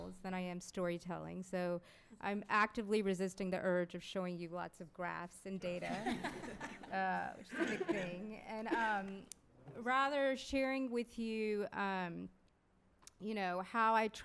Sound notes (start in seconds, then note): 5.8 laughter